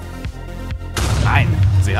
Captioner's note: explosion